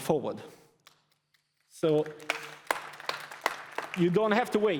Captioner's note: applause